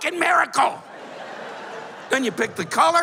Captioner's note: laughter